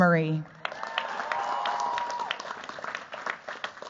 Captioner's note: cheers, applause